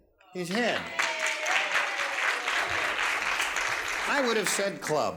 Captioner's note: applause